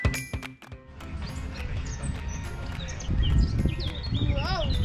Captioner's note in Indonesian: Burung berkicau